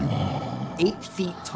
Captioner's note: Lumber Axe groaning